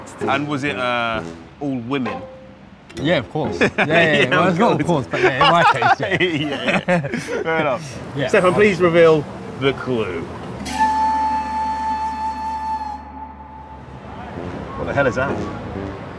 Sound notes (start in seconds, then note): 5.0 laughs